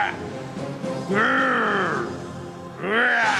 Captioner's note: growling